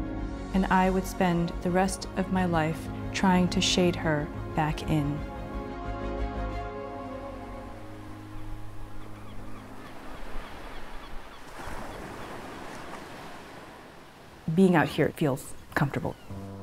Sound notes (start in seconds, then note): 7.5 waves lapping; 7.7 seagulls squawking